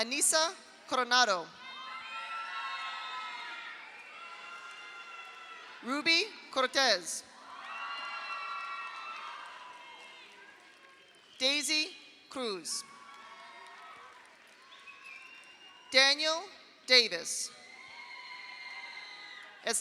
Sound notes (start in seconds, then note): 1.6 audience cheers; 2.5 audience applauds; 7.4 audience cheers; 7.4 audience applauds; 12.9 audience cheers; 13.0 audience applauds; 17.6 audience cheers; 18.0 audience applauds